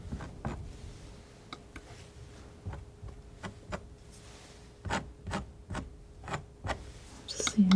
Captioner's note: scratching